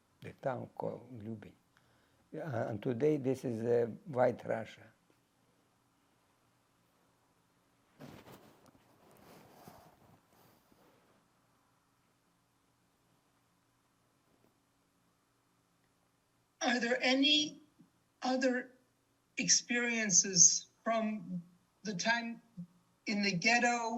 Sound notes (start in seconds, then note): 5.1 pauses 11 seconds